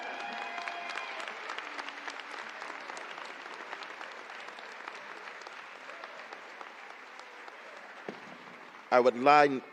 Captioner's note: applause